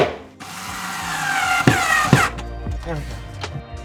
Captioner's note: drill buzzing